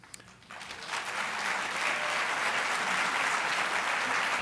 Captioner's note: applause